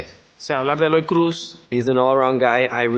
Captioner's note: speaking Spanish